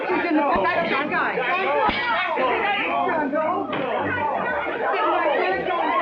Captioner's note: frantic chattering